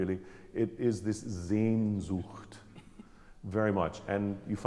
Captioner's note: speaking German